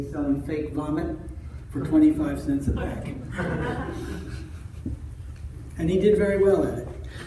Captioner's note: audience laughter